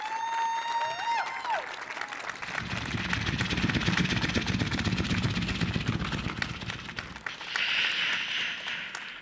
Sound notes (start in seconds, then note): 0.0 audience cheers; 2.6 beatboxing